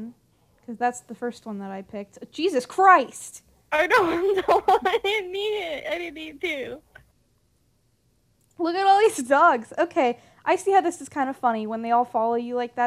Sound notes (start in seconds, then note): 3.8 laughs